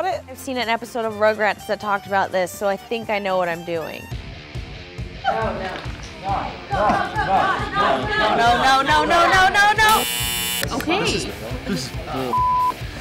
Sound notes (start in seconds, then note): 4.1 rock music; 6.1 voiceover; 9.8 buzzer; 10.7 voiceover